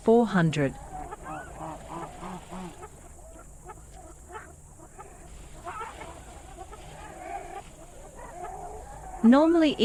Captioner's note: jungle sounds